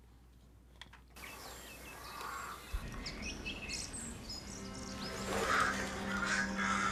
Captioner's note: forest sounds